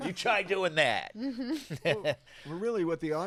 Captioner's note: laughs